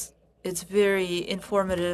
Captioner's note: speaking French